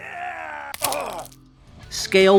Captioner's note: snap